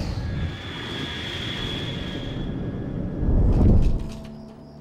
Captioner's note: typing